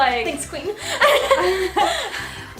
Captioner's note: laughs